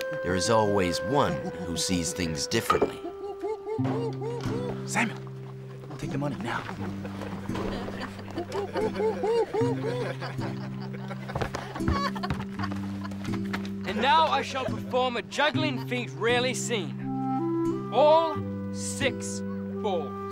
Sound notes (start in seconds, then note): 8.4 whooping; 8.5 laughing